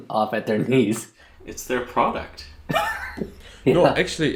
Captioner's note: laughs